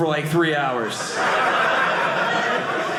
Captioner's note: audience laughing